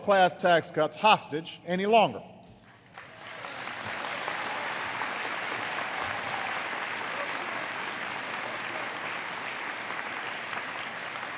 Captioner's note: applause